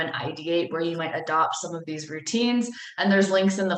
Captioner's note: none